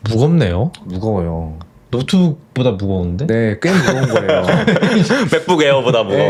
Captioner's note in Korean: 웃음